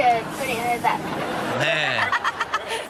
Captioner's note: Chanel laughs